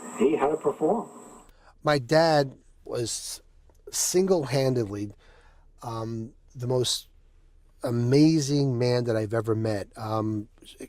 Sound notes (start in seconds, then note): none